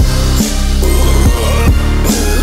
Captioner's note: tremolo burp; long burp